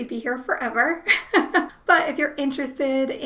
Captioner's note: laughs